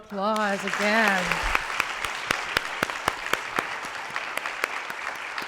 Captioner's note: applause